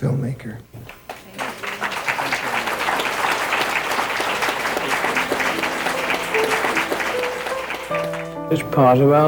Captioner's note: applause